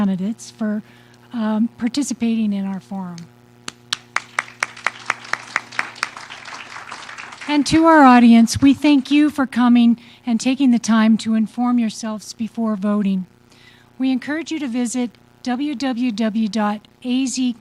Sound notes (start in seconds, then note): 3.9 audience applause